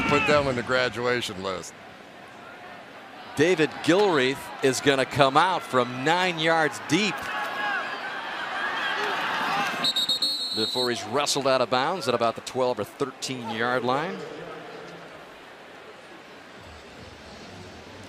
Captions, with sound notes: I'm about to put them on the graduation list. David Gilreath is going to come out from 9 yards deep-- [whistle] --before he's wrestled out of bounds at about the 12- or 13-yard line. [pa announcement]